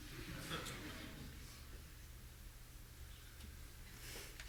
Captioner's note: audience laughing